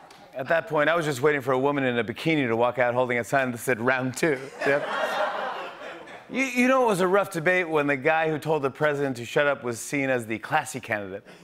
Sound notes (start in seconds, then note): 4.4 laughter